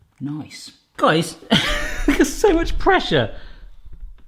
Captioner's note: laughs